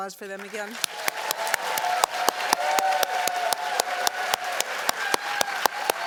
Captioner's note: cheers and applause